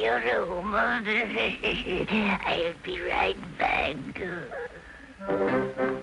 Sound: laughs; upbeat orchestral music

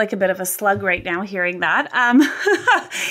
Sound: laughs

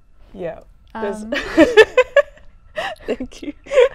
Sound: laughing

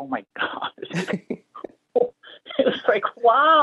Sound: chuckles

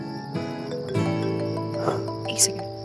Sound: phone ringing

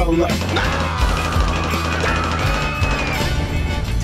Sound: distressed Screams

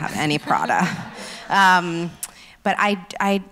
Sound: laughs

